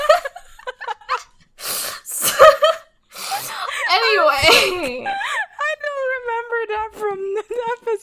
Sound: laughing

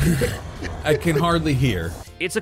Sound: giggling

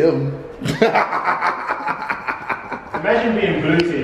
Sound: laughing loudly

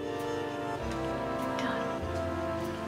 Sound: whispers

